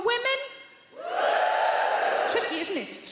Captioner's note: crowd cheers; women cheer